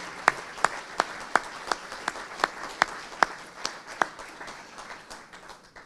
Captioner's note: audience applauding